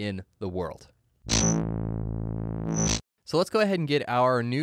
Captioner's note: buzzing